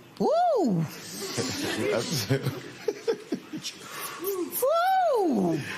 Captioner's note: laughter